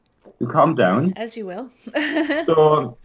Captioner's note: laughs